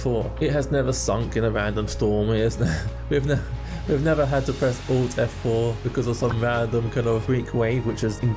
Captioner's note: laughs